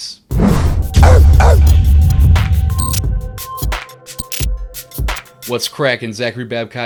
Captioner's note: upbeat music; dog barking